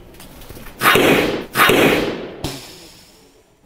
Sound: smashing sound

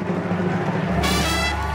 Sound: audience cheers

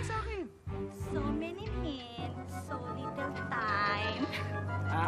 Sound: chuckles

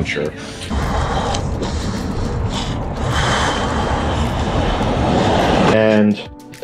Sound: panting heavily from biking

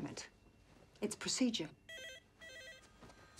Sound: phone rings

